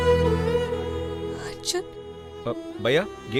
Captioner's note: sobbing